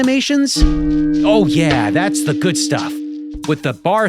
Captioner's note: gong rings